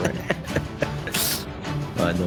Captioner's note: laughing